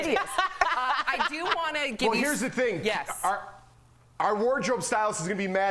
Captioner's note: laughter